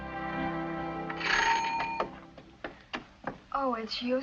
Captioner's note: bell rings